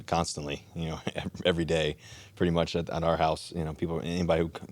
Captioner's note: chuckles